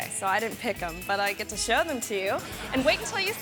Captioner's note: audience laughing